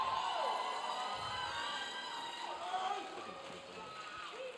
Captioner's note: audience cheering